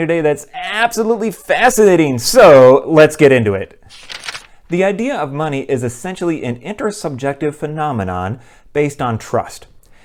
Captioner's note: page turn